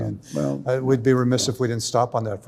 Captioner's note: overlapping chatter